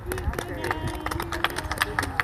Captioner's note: applause